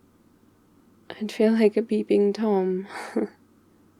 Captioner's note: laughs